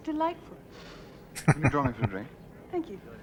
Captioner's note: chuckling